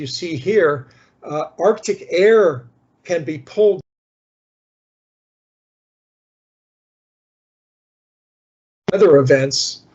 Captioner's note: sound cuts out briefly